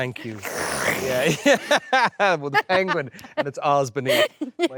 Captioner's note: Jessie slurping; laughs